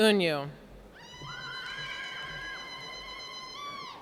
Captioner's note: cheering